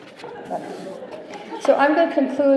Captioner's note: chuckling; giggling